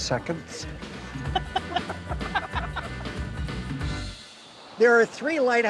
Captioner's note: laughing